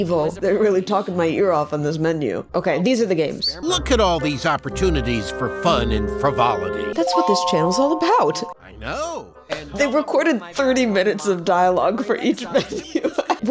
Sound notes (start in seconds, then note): 6.9 positive chime; 9.1 laughing